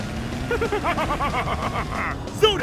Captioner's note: laughing